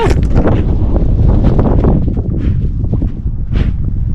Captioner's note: wind whooshing